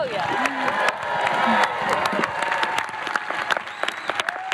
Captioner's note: cheering